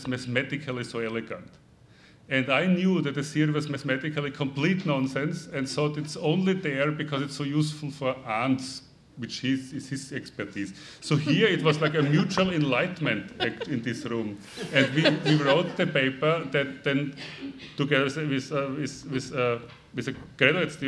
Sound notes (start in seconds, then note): 15.1 laughing